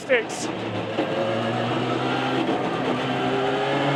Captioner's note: engine rasping